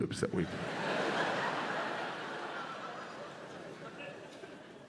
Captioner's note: audience laughs